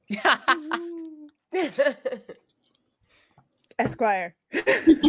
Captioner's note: laugh